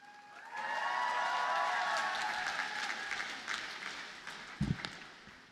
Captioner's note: audience cheers and applauds